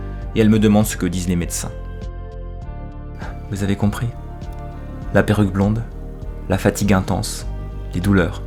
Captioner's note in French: Soupir